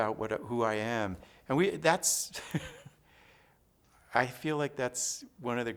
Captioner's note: laughs